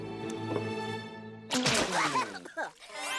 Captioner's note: water splashes, susan sputters